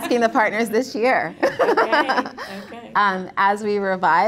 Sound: laughs

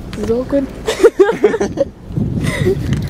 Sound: laughs

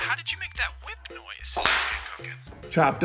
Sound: whip cracking

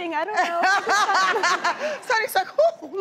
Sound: laughs

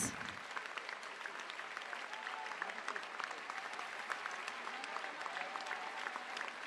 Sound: applause

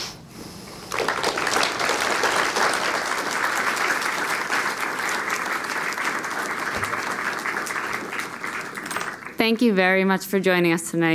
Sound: applause

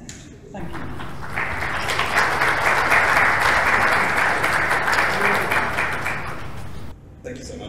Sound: applause

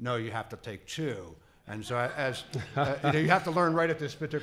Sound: laughing

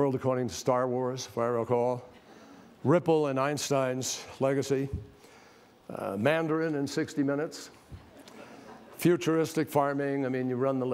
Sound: laughter

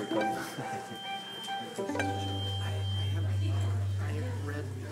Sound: indistinct chatter

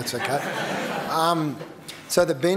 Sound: laughter

